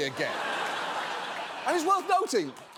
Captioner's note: studio audience laughing